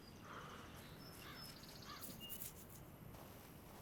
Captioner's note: crow squawking